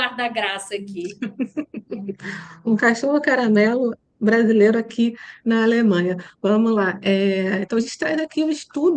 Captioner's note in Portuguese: risadas